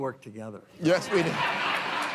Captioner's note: laughter